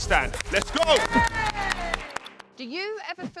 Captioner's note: claps